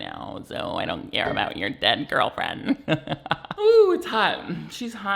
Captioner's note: laughs